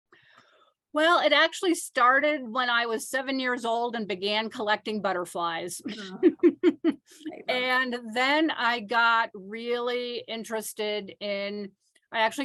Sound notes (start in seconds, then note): 5.9 laughs